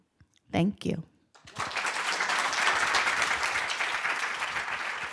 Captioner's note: applause